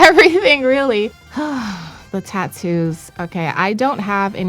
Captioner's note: sighs